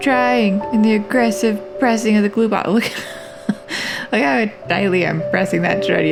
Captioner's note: laugh